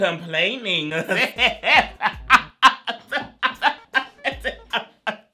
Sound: laughs

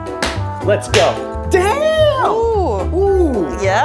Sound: whack

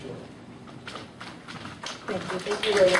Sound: audience claps

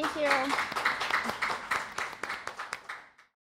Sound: applause

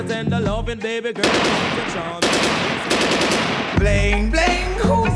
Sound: gun shots firing

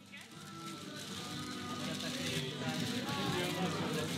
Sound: people talking indistinctively in the market

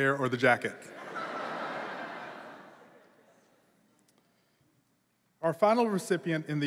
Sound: laughter

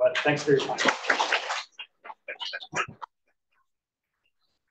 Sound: audience applauds

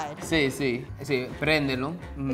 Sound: speaking in foreign language

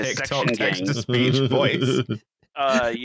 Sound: laughs

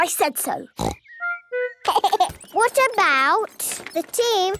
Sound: giggling

